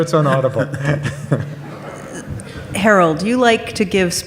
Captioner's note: audience laughs